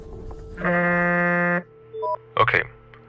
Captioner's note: phone ring